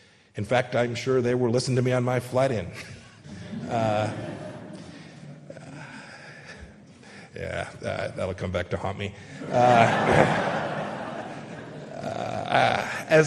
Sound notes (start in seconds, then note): 2.7 audience laughing; 9.3 audience laughing